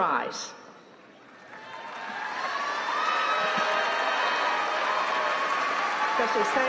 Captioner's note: applause